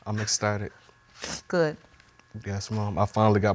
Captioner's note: sniffling